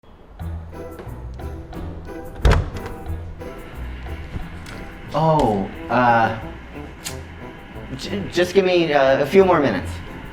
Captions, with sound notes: (upbeat Music) (door opening) (upbeat music) - Oh, just give me a few more minutes.